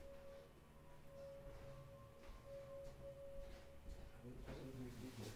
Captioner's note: high pitched sound playing